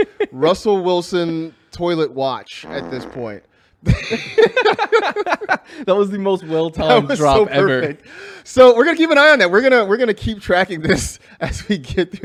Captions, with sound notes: >> WE ARE ON RUSSELL WILSON TOILET WATCH AT THIS POINT. [LAUGHTER] >> THAT WAS THE MOST WELL-TIMED DROP EVER. >> WE ARE GOING TO KEEP AN EYE ON THAT, WE'RE GOING TO KEEP TRACKING THIS FOR THE REMAINDER